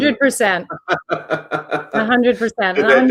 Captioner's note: laughs